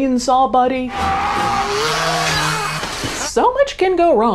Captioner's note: man screaming